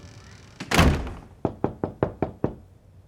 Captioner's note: knocking on door